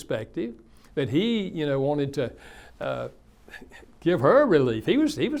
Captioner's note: chuckles